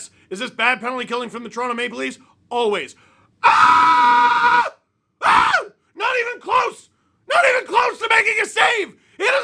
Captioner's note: guttural scream